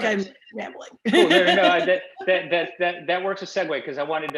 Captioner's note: laughing